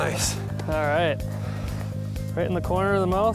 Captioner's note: pat